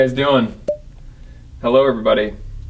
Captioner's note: electronic beep